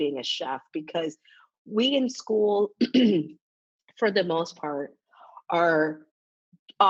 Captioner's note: coughs